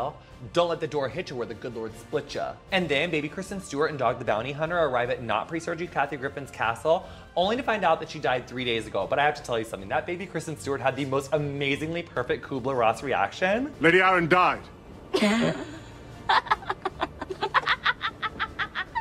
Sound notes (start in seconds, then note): 16.2 laughs